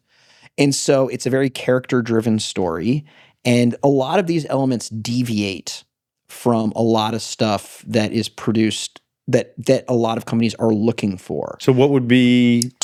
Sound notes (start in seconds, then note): none